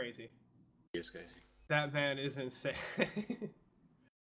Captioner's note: laughs